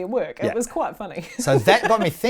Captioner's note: laughs